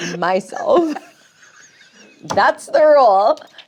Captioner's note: laughs